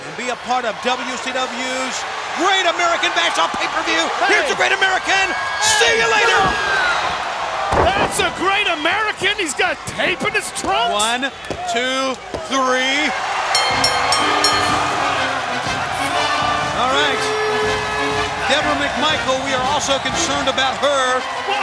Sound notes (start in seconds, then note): 13.5 bell rings; 15.9 crowd cheering